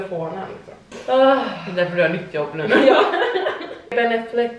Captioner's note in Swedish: Skratt